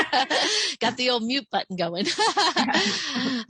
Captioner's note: laughs